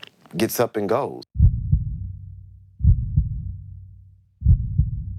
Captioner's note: heart beating